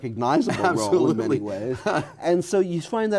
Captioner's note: laughs